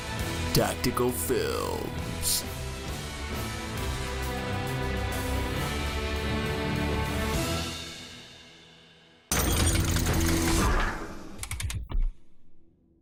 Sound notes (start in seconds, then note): 0.0 news music; 9.3 logo sound effects gears